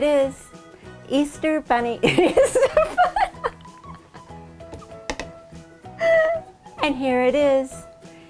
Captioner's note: laughing